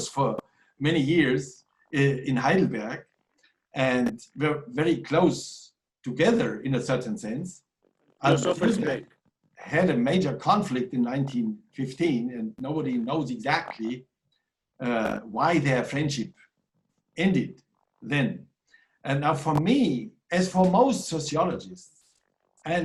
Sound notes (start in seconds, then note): 8.2 audio distorting